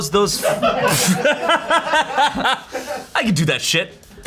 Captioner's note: everyone laughs